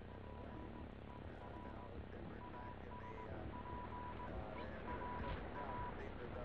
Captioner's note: signal beeping